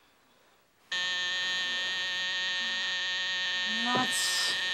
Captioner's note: alarm clock buzzing